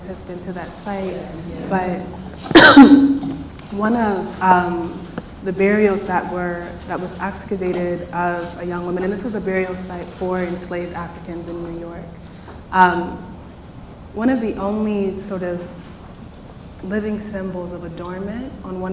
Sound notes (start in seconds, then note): 1.6 coughs